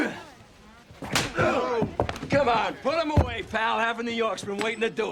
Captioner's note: men grunt